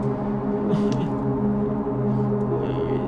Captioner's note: groaning